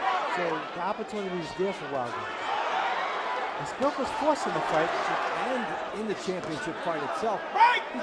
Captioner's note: cheers